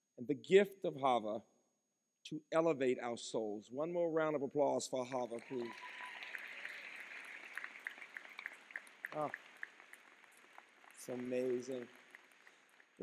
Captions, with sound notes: and the gift of Chava to elevate our souls. One more round of applause for Chava please. (applause) It's amazing.